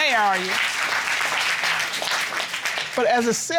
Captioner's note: applause